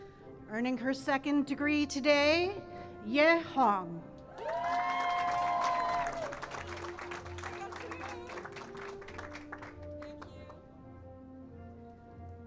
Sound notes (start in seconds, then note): 0.6 cheering and applause